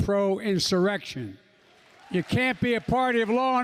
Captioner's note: applause